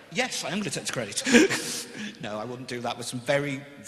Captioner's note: laughs